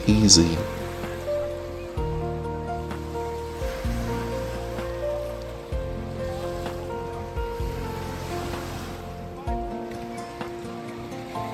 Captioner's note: sound of waves